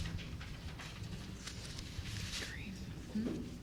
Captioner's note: papers Shuffling